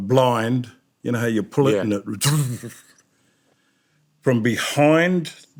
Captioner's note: makes noise of blind winding up